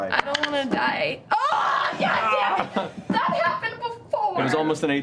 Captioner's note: yelling